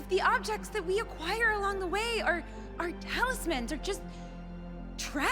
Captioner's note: none